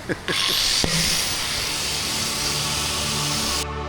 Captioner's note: laughing; saw buzzing; dramatic music